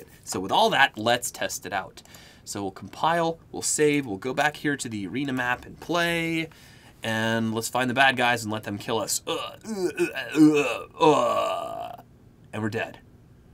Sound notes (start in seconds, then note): 9.2 mimicking death sounds